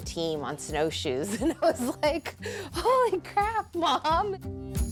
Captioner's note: laughs; steady music